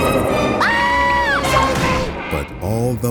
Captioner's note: laughing; screaming